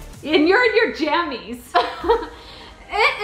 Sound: laughs

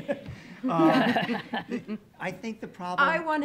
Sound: laughs

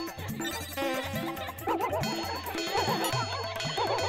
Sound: laughing

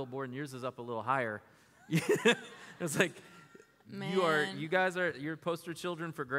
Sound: laughter

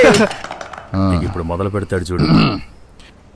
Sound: applause; clears throat

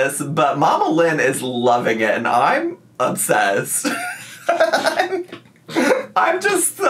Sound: laughs

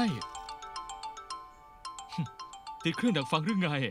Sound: phone ringing

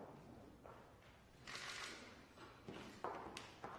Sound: camera clicks

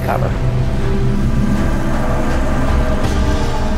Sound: boat motor running

